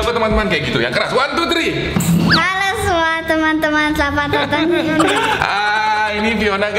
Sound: giggling

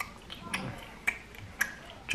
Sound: nom nom nom

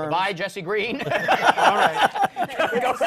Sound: laughter

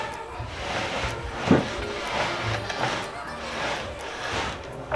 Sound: furniture scrapes

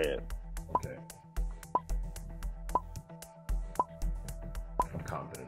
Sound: timer beeping

